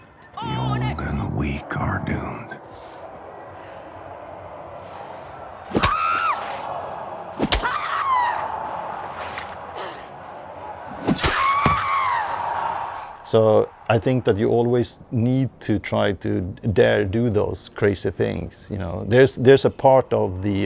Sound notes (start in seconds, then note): 5.6 screams; 7.5 Crunch; 9.2 crowd cheers; 11.2 thunk